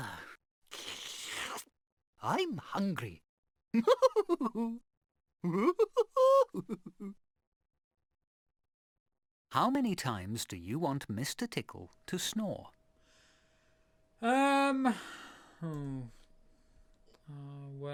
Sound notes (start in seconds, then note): 3.6 mr tickle chuckling